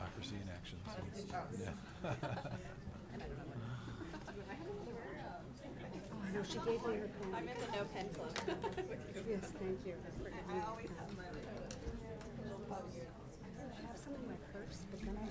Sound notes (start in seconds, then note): 1.9 laughs; 3.8 people chattering